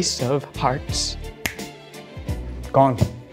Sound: snaps fingers

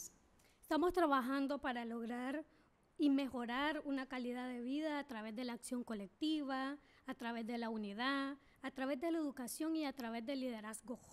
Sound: speaking spanish

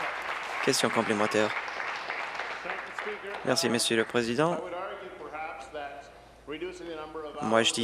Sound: applause

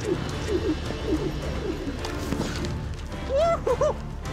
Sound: ropes swirling through air

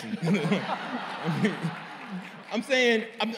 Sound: laughter

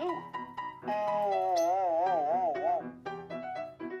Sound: boing

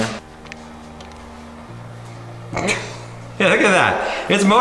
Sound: quiet motor running

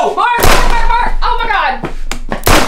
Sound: gun firing

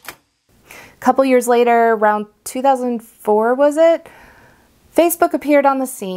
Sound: typewriter clacking sound

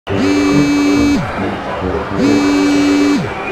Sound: Jeevan's dialing

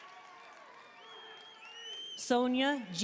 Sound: audience cheering and applauding; audience member shouting

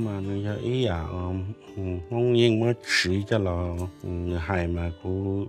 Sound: speaking in Hmong

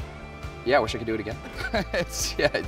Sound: laughs

